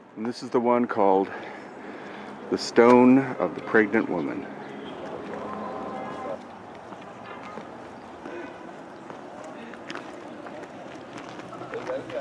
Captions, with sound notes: and this is the one called the Stone of the Pregnant Woman. (tourists chattering) (traffic droning)